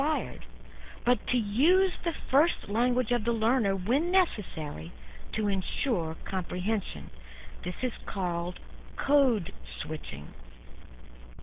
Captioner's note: codeswitching